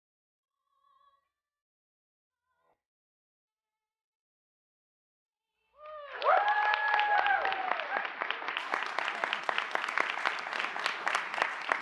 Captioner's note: cheers and Applause